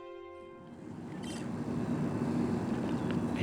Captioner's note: birds chirping